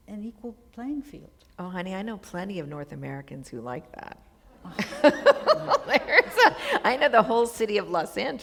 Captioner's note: laughter